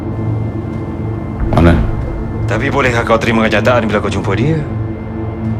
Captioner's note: speaking in foreign language